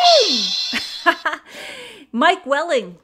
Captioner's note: laughs